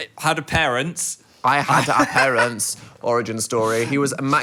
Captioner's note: laughing